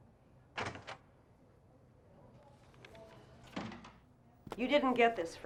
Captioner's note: door opening softly